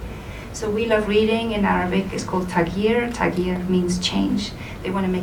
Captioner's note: foreign language spoken